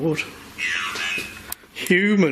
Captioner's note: voice On Radio